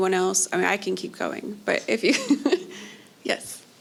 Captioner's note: laughs